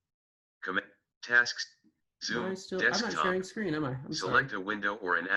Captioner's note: automated voice